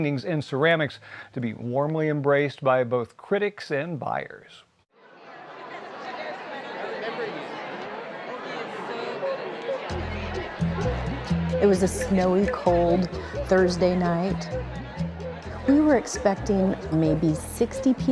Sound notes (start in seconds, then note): 4.4 indistinct chatter; 9.4 upbeat music